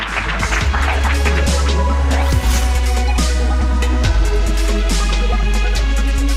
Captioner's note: applause